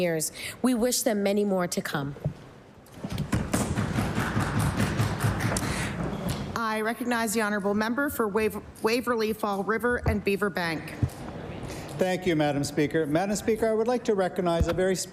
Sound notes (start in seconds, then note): 3.8 applause